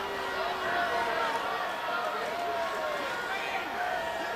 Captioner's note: audience jeers